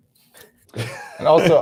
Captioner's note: laughter